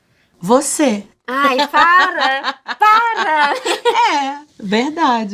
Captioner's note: laughs